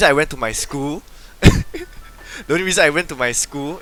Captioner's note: burst out laughing??